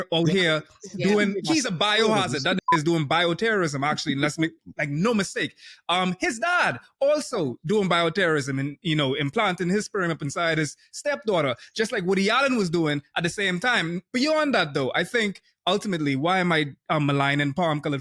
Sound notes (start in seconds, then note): 2.1 beep